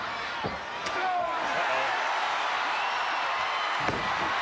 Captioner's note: crowd cheering